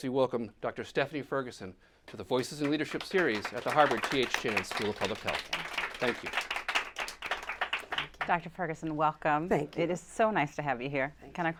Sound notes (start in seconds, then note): 6.1 applause